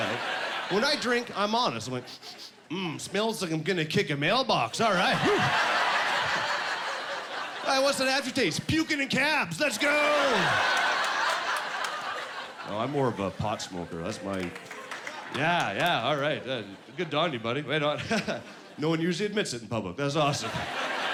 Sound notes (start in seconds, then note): 4.8 laughing; 9.7 laughing; 14.2 applause